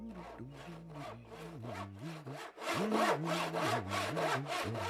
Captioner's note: humming